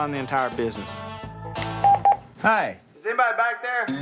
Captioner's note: phone beeps